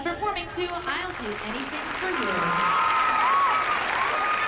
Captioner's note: cheering